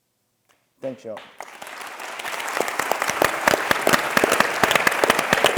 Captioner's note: audience clapping